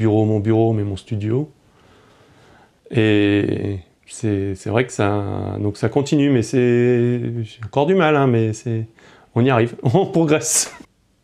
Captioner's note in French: rires